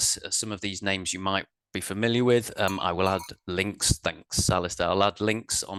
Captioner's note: bell sounds